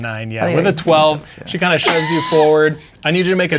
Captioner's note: mumbling; laughing